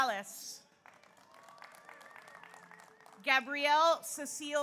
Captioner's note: audience applauds; audience cheers